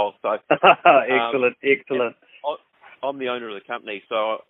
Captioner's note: chuckles